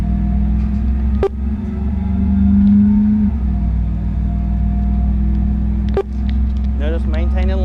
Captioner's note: buttons beeping